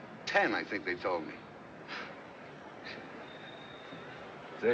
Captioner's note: scoffs